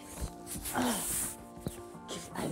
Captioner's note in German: keucht